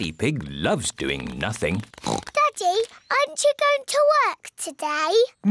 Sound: oinks

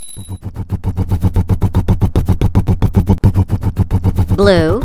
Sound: rumbling

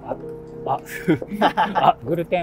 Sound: laughing

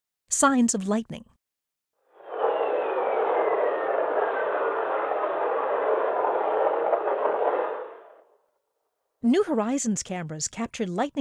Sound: sound of whistlers

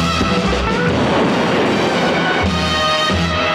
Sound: bomb explodes

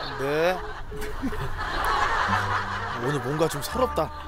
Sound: beeping

